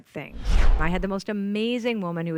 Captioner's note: air whooshing